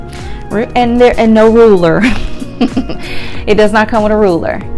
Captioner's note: chuckles